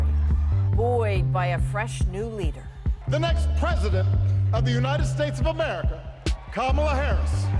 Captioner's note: cheers and Applause